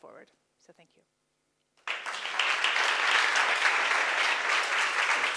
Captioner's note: applause